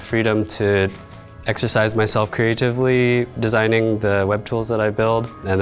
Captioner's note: none